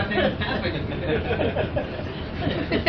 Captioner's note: laughing